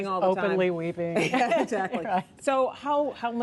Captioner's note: laughter